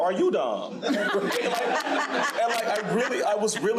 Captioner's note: crowd laughing